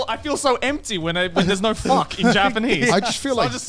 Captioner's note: laughs